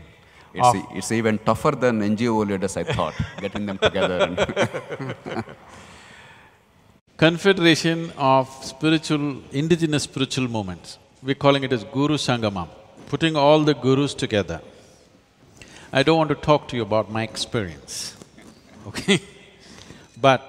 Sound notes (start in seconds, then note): 6.9 laughs